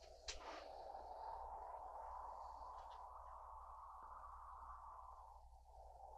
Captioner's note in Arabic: الريح تستمر في الهدير